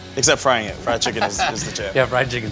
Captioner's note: laughs